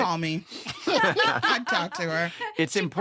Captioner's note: all laughing